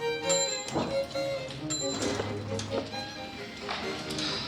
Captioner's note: elevator dings